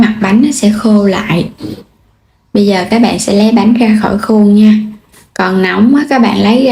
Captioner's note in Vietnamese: khịt mũi